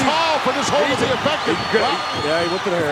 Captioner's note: Hillbilly mumbling